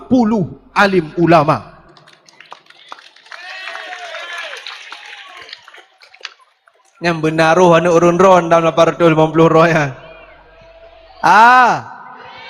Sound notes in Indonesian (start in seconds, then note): 3.9 bersorak